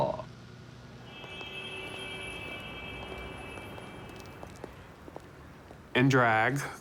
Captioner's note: car horn blaring in distance